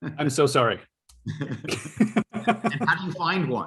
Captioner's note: laughter